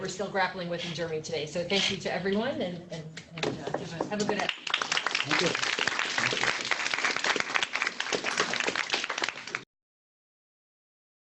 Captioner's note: applause